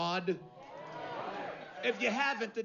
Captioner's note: vítores escasos